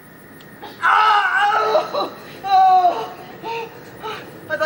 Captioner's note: Robin screams